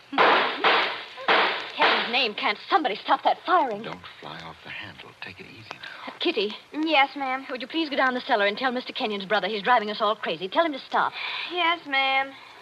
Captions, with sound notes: (GUNSHOTS) Ken's name can't somebody stop that firing. Don't fly off the handle. Take it easy now. Kitty. Yes, ma'am? Would you please go down the cellar and tell Mr. Canyon's brother? He's driving us all crazy. Tell him to stop. Yes, ma'am.